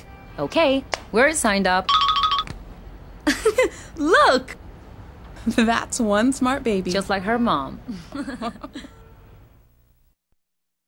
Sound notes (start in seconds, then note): 1.9 different text notification sound; 4.1 laughing; 7.9 both women laugh